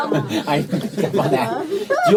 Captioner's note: laughter